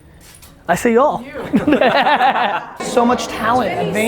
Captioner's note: group laughter